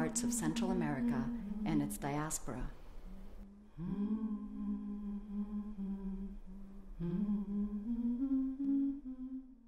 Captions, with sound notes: of Central America and its diaspora. (humming)